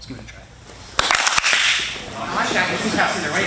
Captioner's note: all clap once